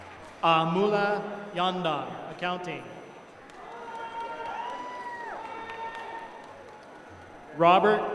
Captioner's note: applause; applause